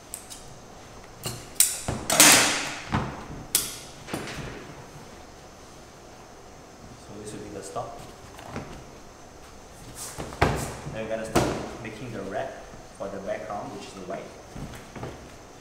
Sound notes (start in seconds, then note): 2.1 clang